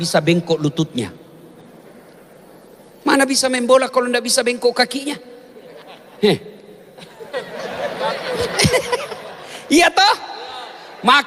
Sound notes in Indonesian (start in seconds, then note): 6.9 tertawa